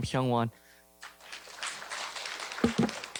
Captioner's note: applause